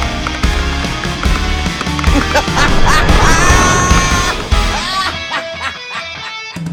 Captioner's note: theme music; laughter